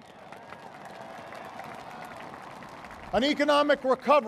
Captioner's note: applause